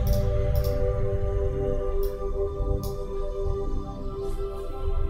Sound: mouse clicking

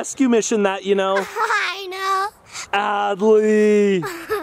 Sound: laughs

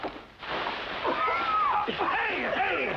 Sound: coughing

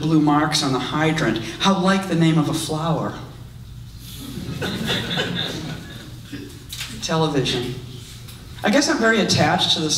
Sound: audience laughs

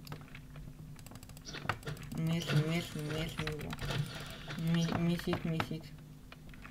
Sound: clicks

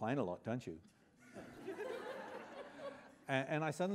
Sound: laughter

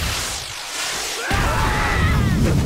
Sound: screaming

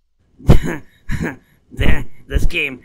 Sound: snickering

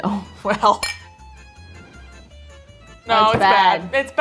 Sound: glasses clinking

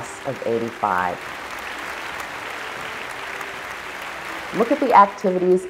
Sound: applause

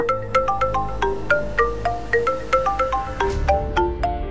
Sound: mobile phone ringing

